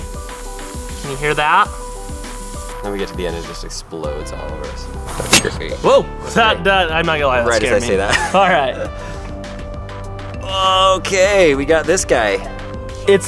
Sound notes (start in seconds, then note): 0.0 air escaping; 5.1 loud click; 7.9 laughs